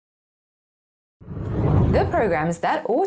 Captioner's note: air whooshing